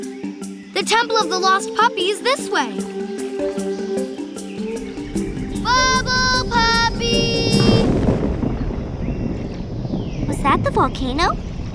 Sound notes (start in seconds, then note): none